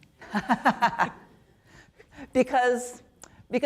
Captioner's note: chuckles